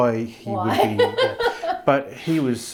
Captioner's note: laughing